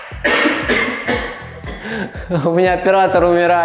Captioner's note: camera-man coughs